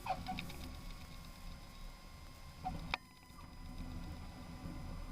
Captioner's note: tires squeak